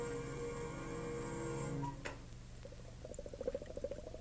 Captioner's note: liquid bubbling